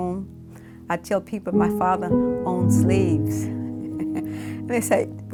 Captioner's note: chuckles